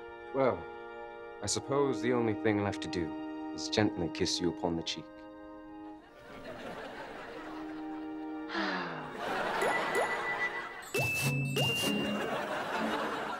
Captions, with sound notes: - Well, I suppose the only thing left to do is gently kiss you upon the cheek. [both sigh] [twinkling]